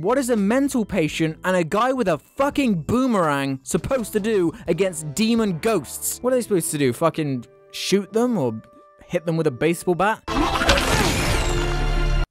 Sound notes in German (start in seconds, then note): none